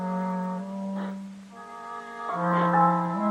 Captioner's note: sniffing